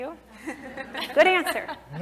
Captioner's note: laugh